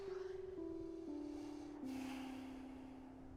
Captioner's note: wendy sighs; ben sighs